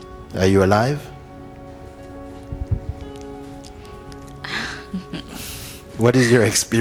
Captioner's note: questioner laughs